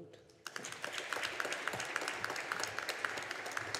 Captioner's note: audience applauding